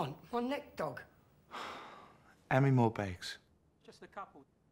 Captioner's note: sighs